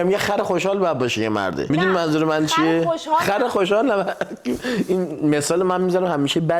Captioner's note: laughs